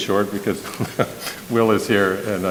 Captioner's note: laughs